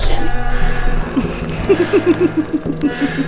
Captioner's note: woman laughing